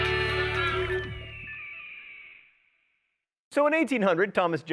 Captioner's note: eagle caws